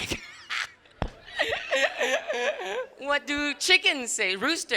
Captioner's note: crowd laughs